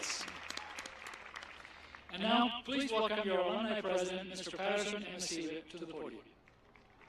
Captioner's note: applause